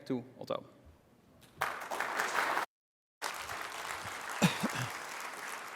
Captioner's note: applause